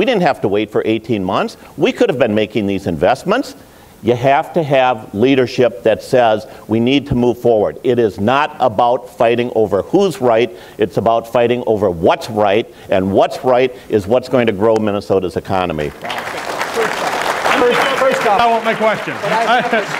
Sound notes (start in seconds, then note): 15.9 applause